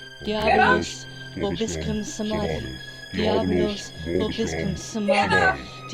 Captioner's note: Chemock and Hannah speak Latin